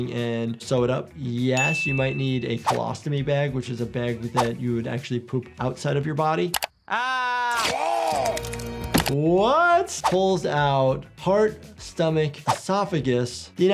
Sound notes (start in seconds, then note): none